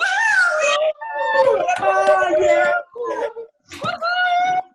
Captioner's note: attendees cheering